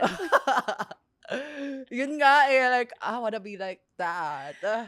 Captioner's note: laughs